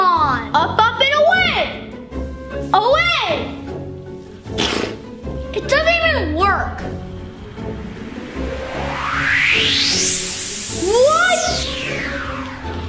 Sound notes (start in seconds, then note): 6.8 whoosh